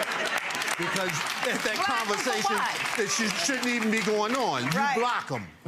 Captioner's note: audience laughing